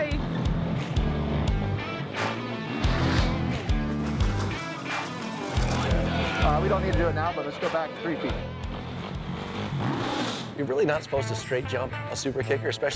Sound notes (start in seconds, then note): 0.2 rock music; 2.2 motorcycle engine; 8.4 motorcycle engine